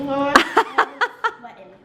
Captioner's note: laughs